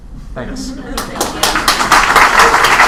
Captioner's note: applause